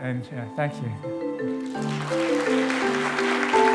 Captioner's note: applause